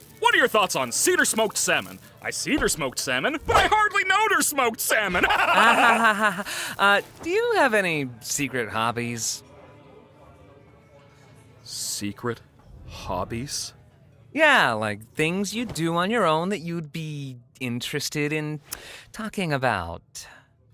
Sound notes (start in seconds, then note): 5.0 laughs manically